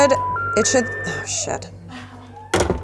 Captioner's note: phone beeps